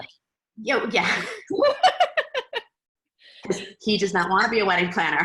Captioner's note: laughing